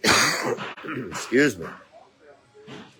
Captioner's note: coughs